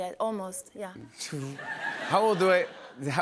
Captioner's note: laughter